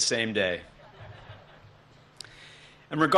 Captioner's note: laughter